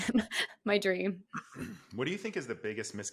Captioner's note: laughs; clears throat